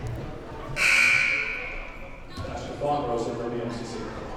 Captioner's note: buzzer sounding